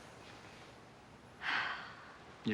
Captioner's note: sighs